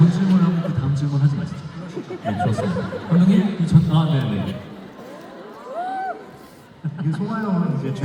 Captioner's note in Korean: 웃음